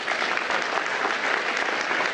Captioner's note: applause